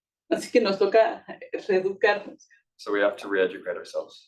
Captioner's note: speaking Spanish